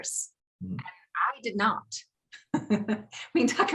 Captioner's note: laughing